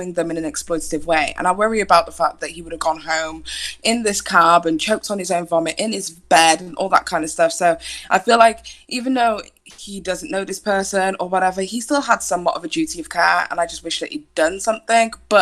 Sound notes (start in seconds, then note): none